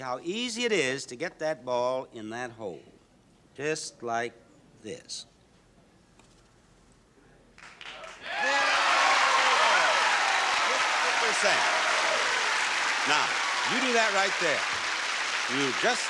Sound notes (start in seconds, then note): 6.0 faint rustling sound of turf; 7.6 audience cheers and applauds